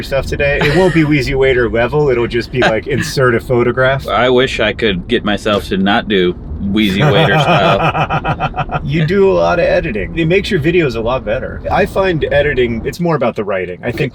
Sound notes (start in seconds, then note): 6.8 John laughs